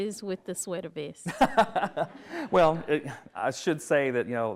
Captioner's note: laughs